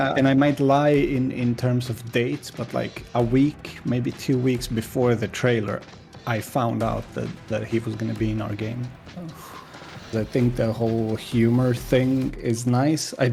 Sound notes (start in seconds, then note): 9.2 deep exhale